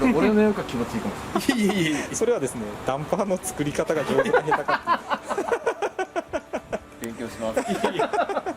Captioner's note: laughs